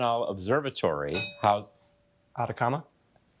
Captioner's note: bell dinging